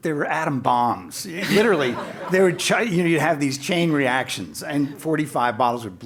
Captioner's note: laugh